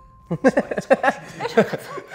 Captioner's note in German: Lachen